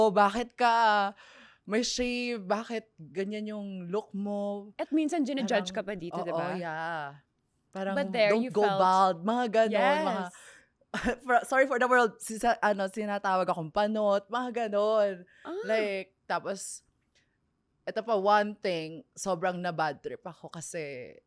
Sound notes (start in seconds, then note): 10.9 laughs